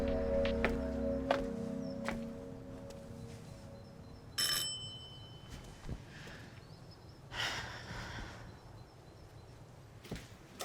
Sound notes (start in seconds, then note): 1.2 footsteps tapping; 4.3 doorbell rings; 7.4 Claire sighs